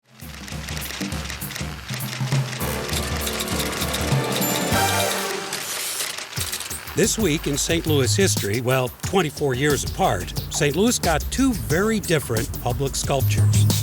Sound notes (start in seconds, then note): 0.2 typewriter clacking; 0.3 upbeat music